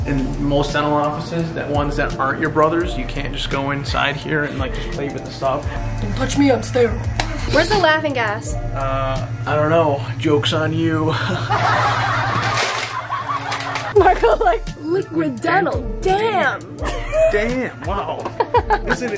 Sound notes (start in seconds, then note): 11.1 laughs; 11.1 laughter